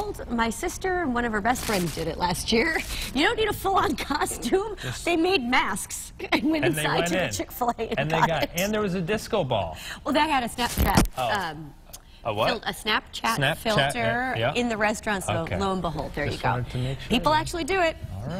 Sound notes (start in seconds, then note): 7.8 laughter